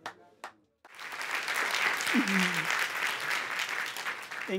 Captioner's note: applause